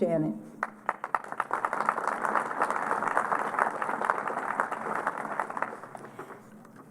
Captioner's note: applause